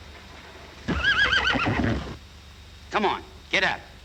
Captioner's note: horse neighing